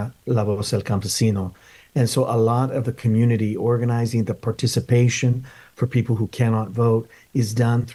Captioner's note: speaking in Spanish